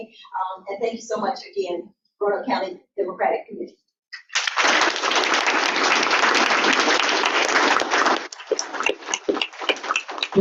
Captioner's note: audience clapping